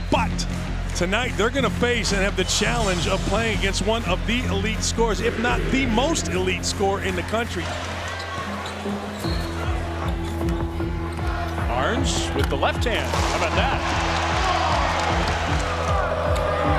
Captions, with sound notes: But, tonight they're gonna face and have the challenge of playing against one of the elite scorers, if not, the most elite scorer in the country. (squeaky shoes on court) Ahrens with the left hand, how bout that? (crowd cheering)